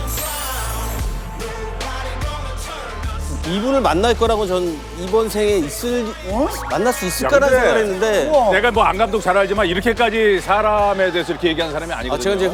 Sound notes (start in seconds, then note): 6.4 he's so nervous that he's stuttering